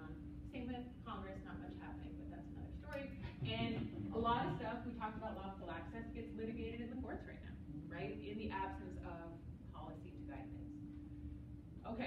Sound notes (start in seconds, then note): 3.2 laughter